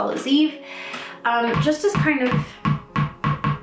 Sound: dog ball bouncing

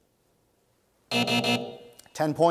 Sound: buzz

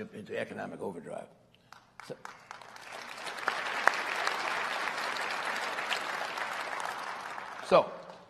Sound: applause

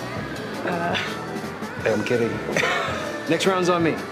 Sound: laughs

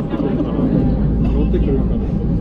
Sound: laughing

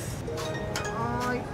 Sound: machine chimes

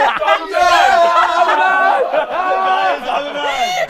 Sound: people laughing

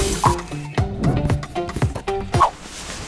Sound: sound of water filling up a drink bottle; whooshing sound effects with zoom in, sound of pencil on paper; whipping sound effect, then rustling of jacket, then foot steps

